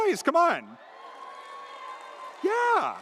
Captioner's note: audience cheers